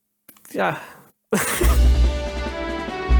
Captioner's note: laughs